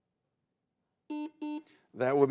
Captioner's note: buzzer beeps